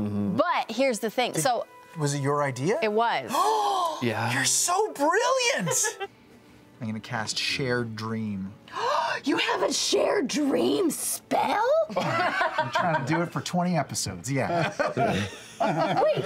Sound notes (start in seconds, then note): 3.3 loud gasp; 5.6 laughter; 8.7 loud gasp; 11.9 group laughter